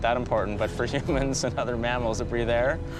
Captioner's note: chuckling